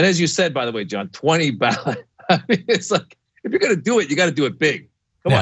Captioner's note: laugh